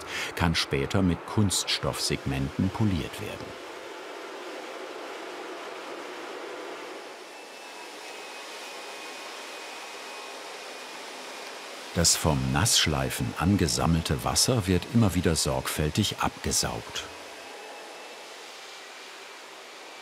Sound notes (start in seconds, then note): 7.0 high whirring sound